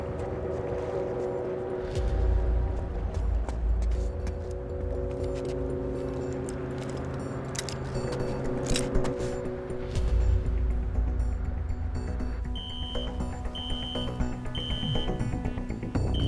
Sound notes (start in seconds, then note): 12.5 alarm sounding